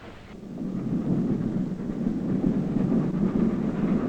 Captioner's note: train chugging